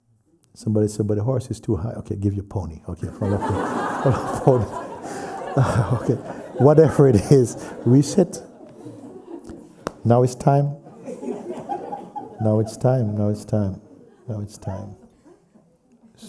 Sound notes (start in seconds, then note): 5.9 laughter; 9.7 slaps leg; 10.8 laughter